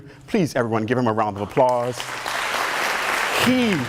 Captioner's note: applause